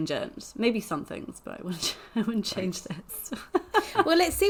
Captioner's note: laughs